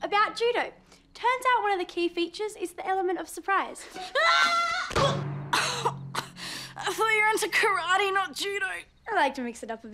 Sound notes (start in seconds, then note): 4.1 screams; 5.5 coughs